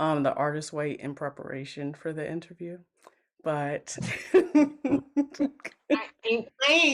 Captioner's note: laughs